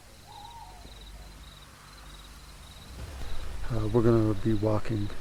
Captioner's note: animal calling